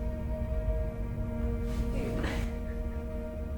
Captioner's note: coughs